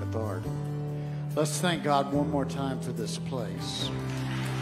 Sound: crowd claps

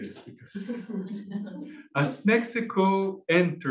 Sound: laughing

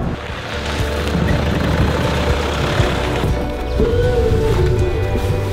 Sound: engine purring

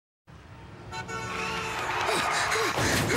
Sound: horn honking, tires screeching; crashing

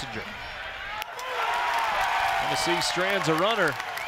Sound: cheering and clapping

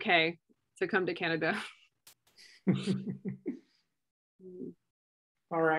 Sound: laughter

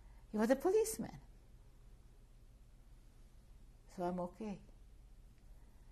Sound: pauses for 3 seconds

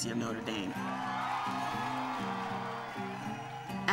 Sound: crowd cheering

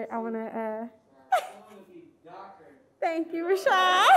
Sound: laughs

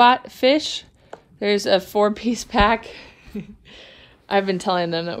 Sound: laughs

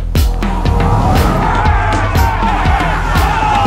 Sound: men shouting

